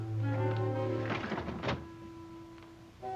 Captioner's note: rattling